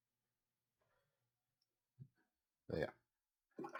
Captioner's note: silence